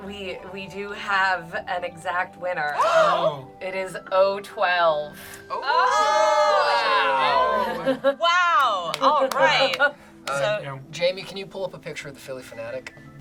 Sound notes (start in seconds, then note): 2.9 group gasps; 5.5 group cheers and awes